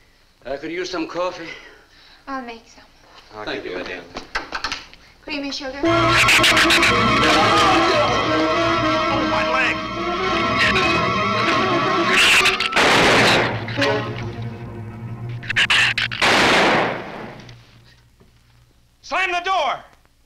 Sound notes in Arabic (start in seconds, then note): 6.7 صراخ الزبابة; 6.7 موسيقى أوركسترالية درامية; 7.7 مارلو يصرخ; 12.8 إطلاق نار; 15.5 زئير الزبابة; 16.2 إطلاق نار